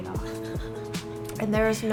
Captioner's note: laughing